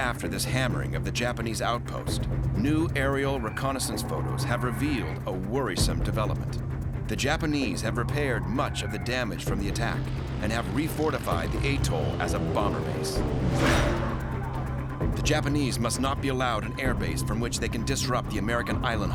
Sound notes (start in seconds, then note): 12.9 engine roaring